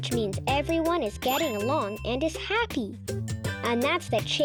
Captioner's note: check mark rings